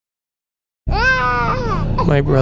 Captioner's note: baby crying